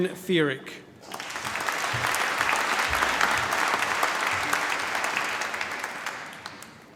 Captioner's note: applause